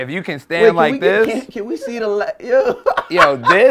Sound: laughter

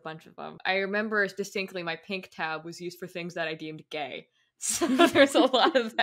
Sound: laughing

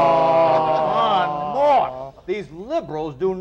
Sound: laughter

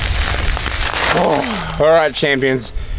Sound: spokes rattle; gasps

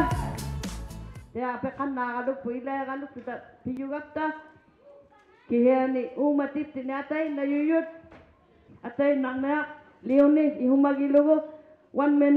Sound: crowd chattering; speaking alternate language

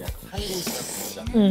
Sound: slurping

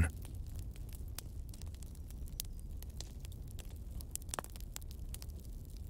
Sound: campfire Sounds

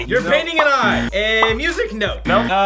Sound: buzzer

